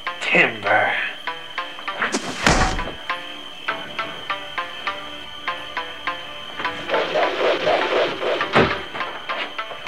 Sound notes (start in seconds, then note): 2.1 karate kick; 6.8 whooshing; 8.6 thump